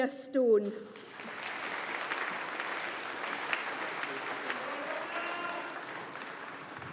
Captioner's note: audience applauding